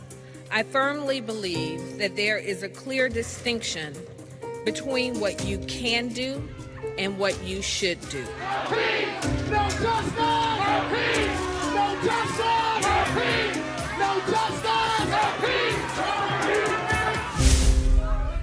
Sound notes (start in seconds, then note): 8.7 crowd; 10.7 crowd; 12.9 crowd; 15.2 crowd